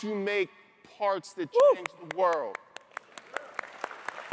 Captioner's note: whoops; all applaud